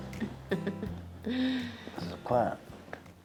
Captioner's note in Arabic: تضحك